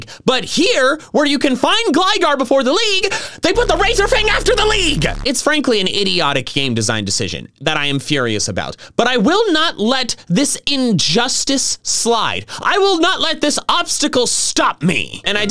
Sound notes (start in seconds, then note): none